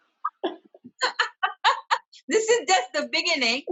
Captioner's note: both laughs